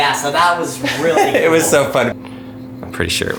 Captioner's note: laughs